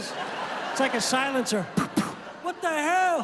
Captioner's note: imitates gunshots